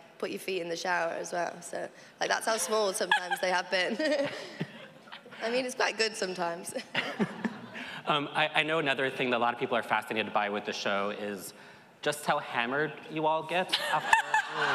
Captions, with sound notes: put your feet in the shower as well. So, like, that's how small sometimes they have been. [chuckles] I mean, it's not good sometimes. I know another thing that a lot of people are fascinated by with the show is just how hammered you all get after--